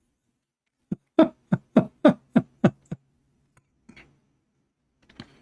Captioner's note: Ketawa